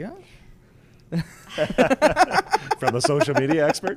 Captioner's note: laughs